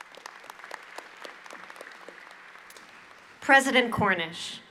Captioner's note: applause